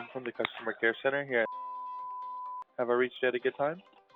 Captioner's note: beeping sound